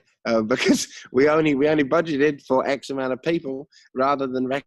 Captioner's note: laughs